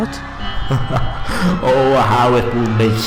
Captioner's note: laughter